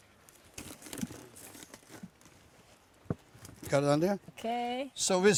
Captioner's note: crackling sound